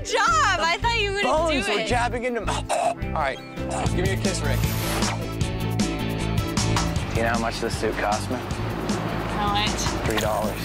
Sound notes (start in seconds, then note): 2.4 gagging